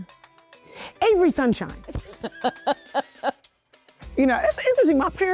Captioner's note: laughing